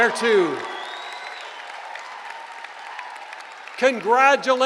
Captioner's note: cheering